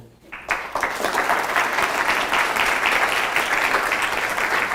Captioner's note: audience applauding